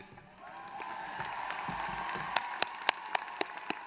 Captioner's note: applause